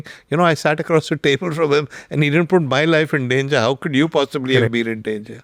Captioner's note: chuckles